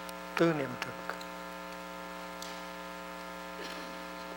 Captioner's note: Vietnamese